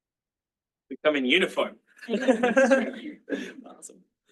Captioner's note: laughs